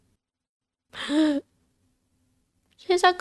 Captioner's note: gasp